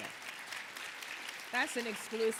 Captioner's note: audience applauding